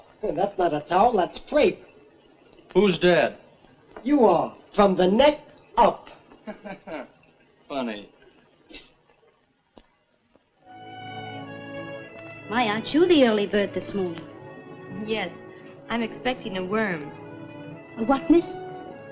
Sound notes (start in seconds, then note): 6.4 laughs